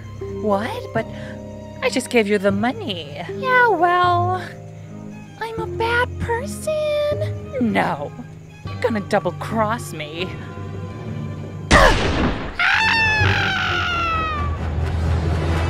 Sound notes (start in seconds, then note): 11.7 gunshot; 12.5 Lacey screams